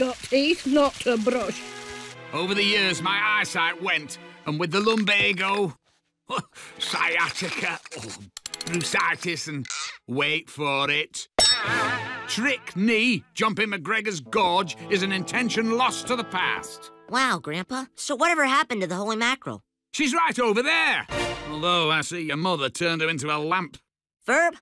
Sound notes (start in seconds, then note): 6.5 grunts; 7.1 creak!; 11.7 boing!